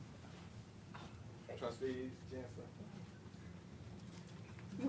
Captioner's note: off mic